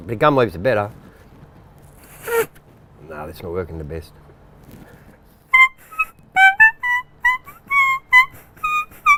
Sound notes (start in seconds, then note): 6.3 whistles